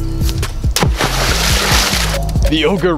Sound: rock splashing in water

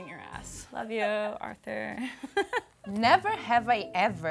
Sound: laughs

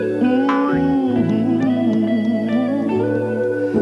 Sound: humming

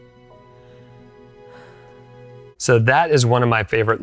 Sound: inhales deeply and exhales

